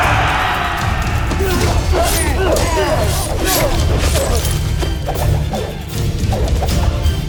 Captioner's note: intense music playing; screaming; grunting, growling, groaning; swishing, clanging, thumping; weapons swooshes